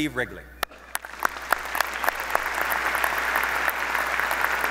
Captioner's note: audience applauding